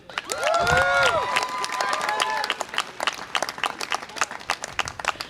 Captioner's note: audience applause and cheer